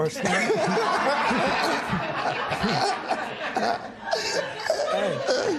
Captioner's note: laughter